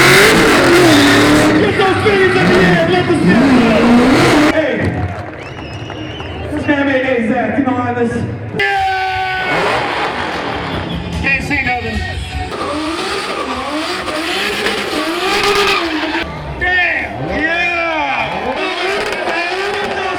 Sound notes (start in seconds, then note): 8.6 car engine revving; 12.6 car engine roaring